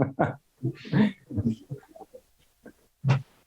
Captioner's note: laughs